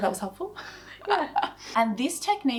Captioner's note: laughs